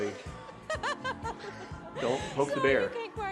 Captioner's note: laughing